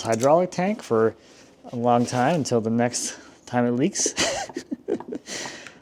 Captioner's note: laughs